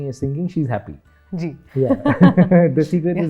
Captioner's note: laughs